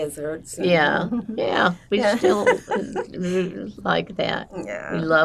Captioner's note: laughing